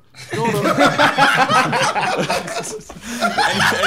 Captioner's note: laughing